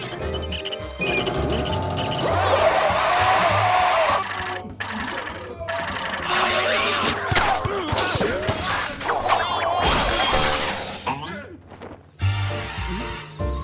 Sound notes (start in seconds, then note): 3.2 groaning